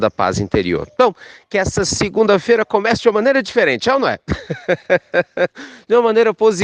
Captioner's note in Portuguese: risos